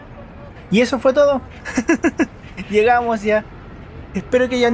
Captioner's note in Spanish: risas